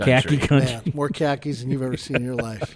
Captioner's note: podcasters chuckling